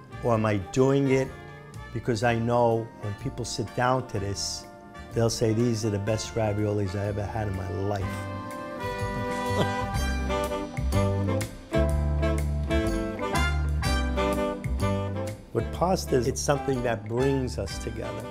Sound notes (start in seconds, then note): 9.0 laughs; 11.9 upbeat jazz music